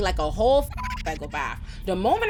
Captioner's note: beep